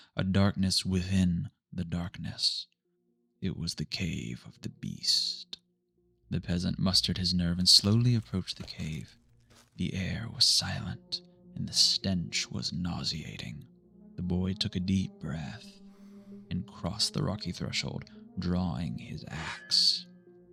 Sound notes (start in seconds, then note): none